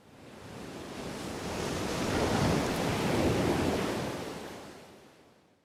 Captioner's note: waves crashing